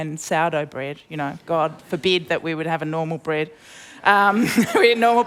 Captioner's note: laughs